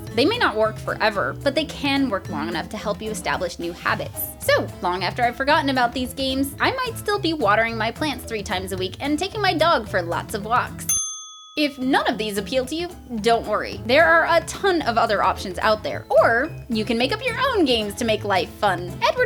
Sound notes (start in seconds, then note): 10.8 ding